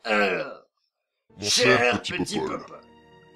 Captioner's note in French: Voix de Sauron